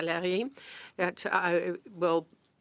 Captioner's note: speaking French